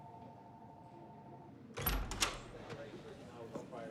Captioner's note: door opens